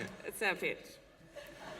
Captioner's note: laughter